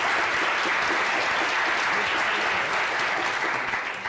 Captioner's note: applause